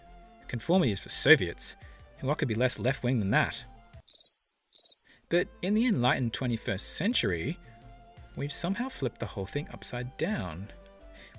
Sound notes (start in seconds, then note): 4.7 cricket chirp